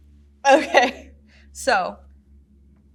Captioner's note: laughs